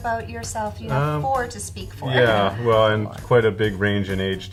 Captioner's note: laughing